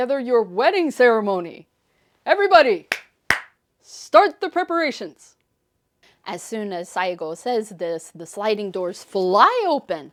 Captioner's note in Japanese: パチパチ